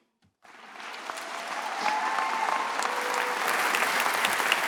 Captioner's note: graduates applauding